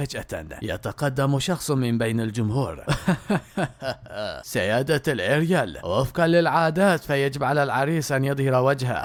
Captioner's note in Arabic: ضحك